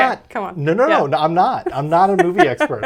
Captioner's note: laughs